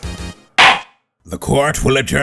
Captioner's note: gavel slams!